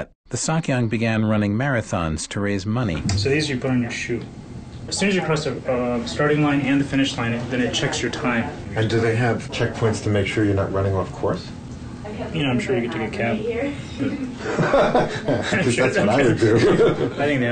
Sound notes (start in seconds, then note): 13.8 laughs